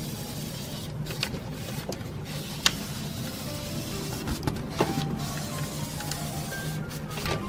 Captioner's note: roller shutter